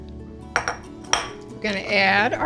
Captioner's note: bowl clinking